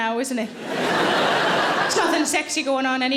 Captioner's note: audience laughing